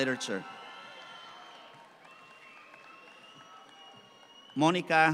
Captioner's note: audience cheer